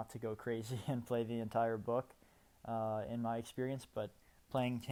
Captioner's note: laughter